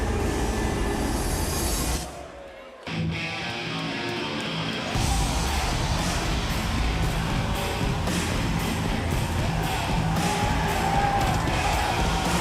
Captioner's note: crowd cheering